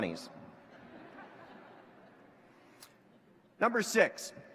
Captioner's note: laughter